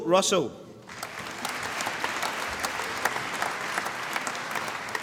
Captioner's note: applause